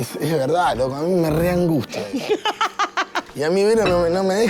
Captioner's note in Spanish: Roxi ríe